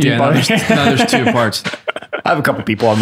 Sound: laughs

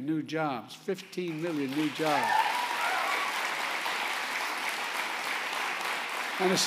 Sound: applause

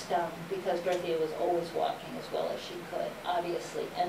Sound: none

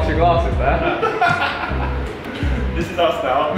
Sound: laughing

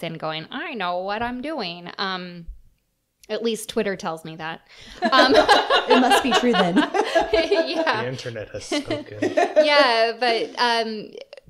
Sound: laughter

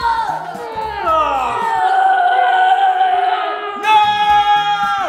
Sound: boy yells

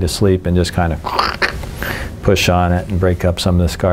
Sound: imitates crunching

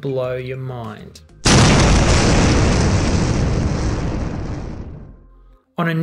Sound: loud explosion

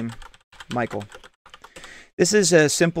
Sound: keyboard typing

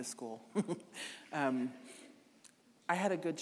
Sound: chuckling

